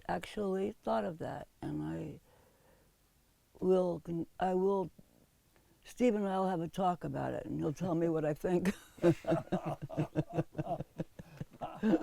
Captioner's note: laughs